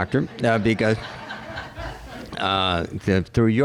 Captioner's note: laughter